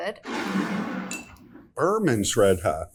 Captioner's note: bottle scrapes